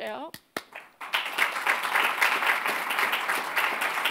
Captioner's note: audience clapping